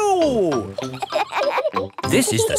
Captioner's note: kids laughing